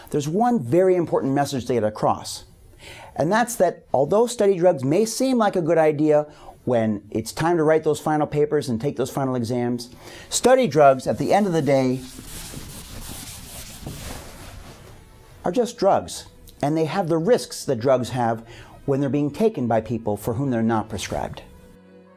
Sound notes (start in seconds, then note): 11.1 eraser scraping board; 22.0 soft music